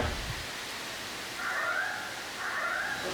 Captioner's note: siren